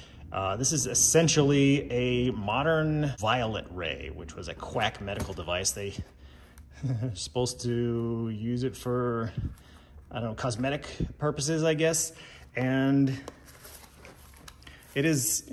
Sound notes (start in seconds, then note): 6.7 chuckles